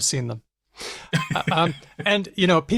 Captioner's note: laughs